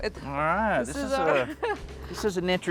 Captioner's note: laughs